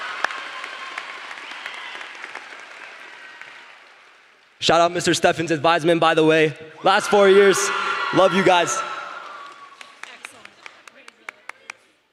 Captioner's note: applause